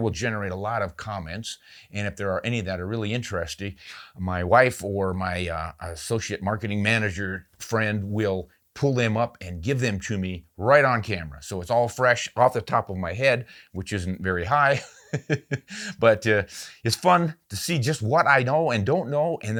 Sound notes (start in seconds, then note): 14.7 laughs